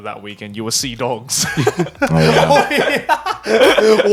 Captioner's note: laughing; laughs